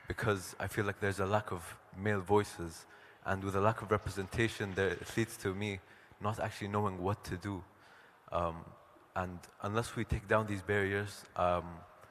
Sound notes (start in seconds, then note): none